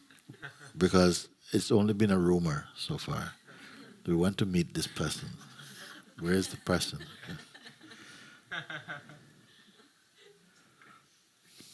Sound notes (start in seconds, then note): 0.2 laughter; 9.3 laughter